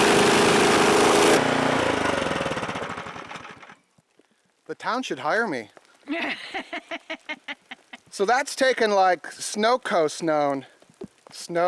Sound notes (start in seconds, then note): 6.0 woman laughs